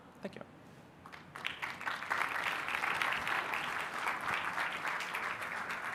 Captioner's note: applause